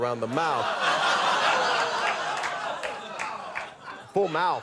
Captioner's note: audience laughs